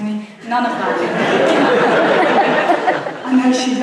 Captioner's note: audience laughs